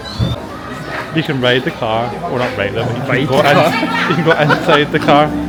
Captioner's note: laughs